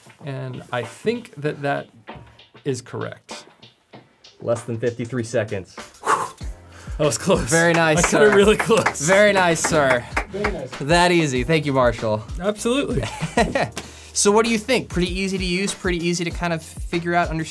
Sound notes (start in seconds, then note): 5.9 exhales; 7.7 crew applauds; 13.0 laughs